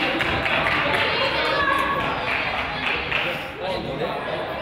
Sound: crowd applauds; crowd chatters

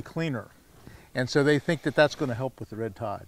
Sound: none

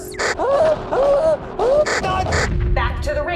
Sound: clown car screaming, German screaming

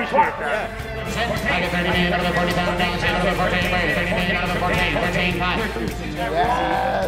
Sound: auctioneer drawling

